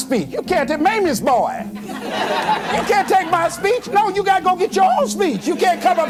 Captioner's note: giggles